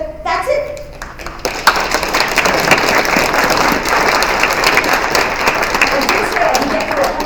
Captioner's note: applause